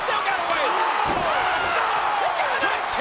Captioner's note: kick thuds; body thuds